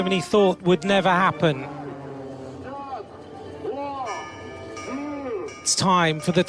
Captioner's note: jets buzzing